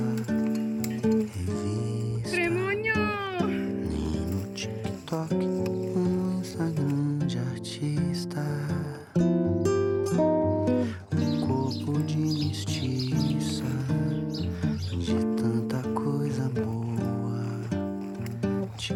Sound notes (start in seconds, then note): 2.4 speaking foreign language